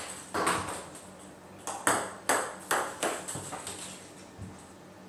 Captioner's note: ball ping pong hitting continues